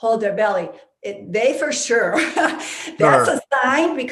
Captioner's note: laughing